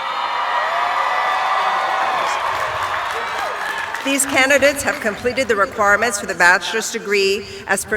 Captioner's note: cheering